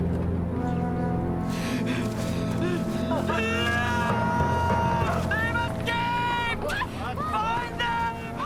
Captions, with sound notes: - (screaming) They've escaped! Find them!